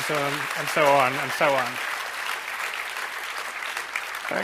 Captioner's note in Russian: аплодисменты